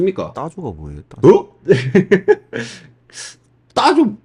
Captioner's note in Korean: 웃음